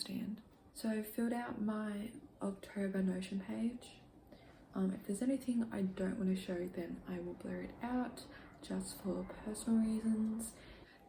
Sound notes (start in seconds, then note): none